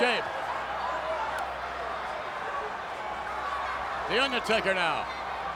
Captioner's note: applause